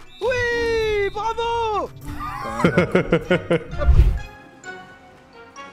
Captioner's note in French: Rires